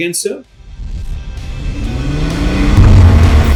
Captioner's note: revving engine